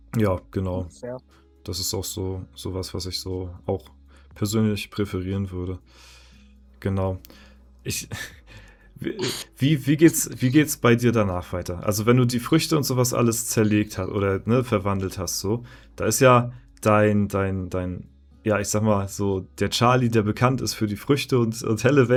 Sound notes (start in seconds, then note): 6.1 snort; 9.3 laughter